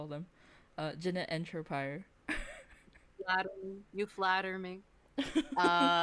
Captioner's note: laughs